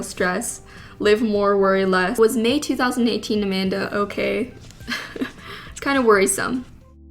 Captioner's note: laughs